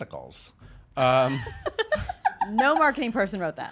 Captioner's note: laughing